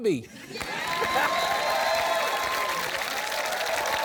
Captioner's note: cheering and applause